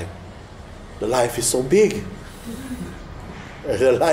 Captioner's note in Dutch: zacht gelach